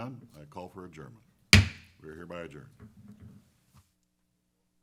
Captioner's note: taps gavel